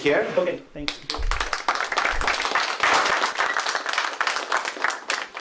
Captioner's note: applause